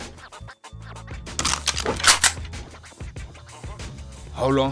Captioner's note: gun snaps